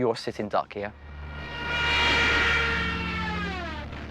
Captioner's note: plane buzzing